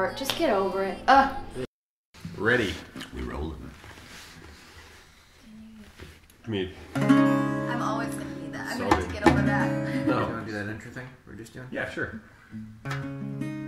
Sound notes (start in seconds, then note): 6.9 guitar strum; 9.8 chuckles; 12.8 guitar strum